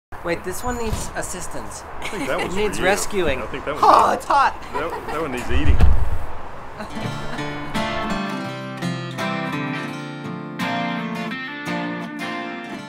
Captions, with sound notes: - Wait, this one needs assistance. (laughing) He needs rescuing. Oh, it's hot! - That one needs eating. (pleasant guitar music)